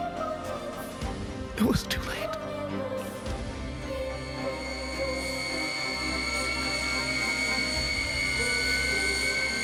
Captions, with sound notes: It was too late. (plane engine starting) (intense orchestral music)